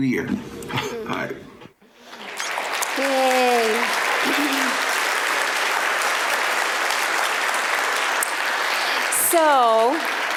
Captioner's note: applause